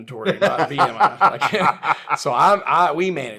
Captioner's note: laughs